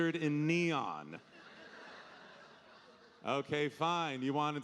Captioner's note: audience laughing